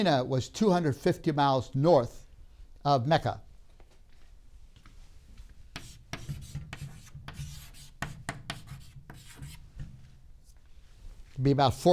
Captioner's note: chalk sounds